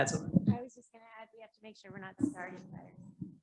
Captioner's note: quiet, off mic